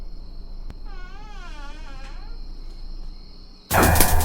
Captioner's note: knob clicking; door creaking; dramatic music